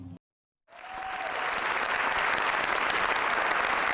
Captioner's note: applause